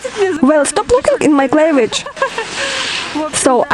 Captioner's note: laugh